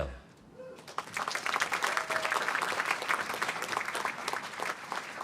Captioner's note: applause